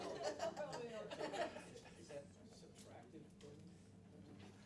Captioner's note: laughter